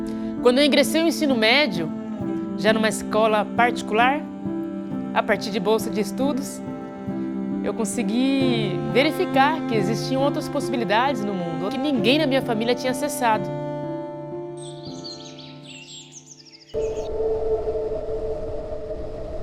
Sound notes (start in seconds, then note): 14.5 birds singing; 16.7 slow and intense music